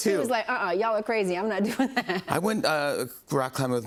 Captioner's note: laughs